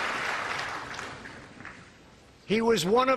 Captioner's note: applause